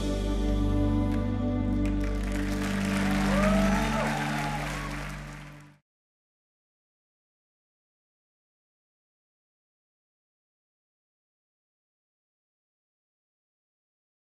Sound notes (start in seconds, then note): 0.0 gentle music; 1.8 audience applauding; 1.8 audience cheering